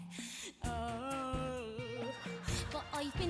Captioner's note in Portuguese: groans comically